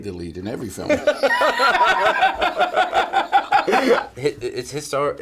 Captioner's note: both laughing